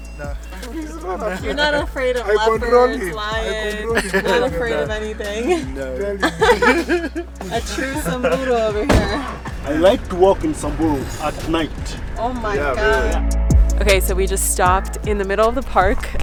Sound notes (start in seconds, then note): 0.5 laughing enjoyably; 6.1 laughing happily